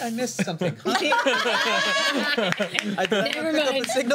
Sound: laughter

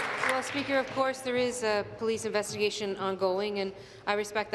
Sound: applause

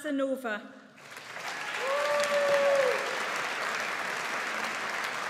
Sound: audience applauds

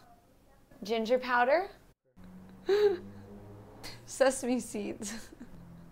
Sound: laughs

